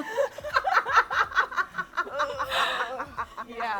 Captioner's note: all laugh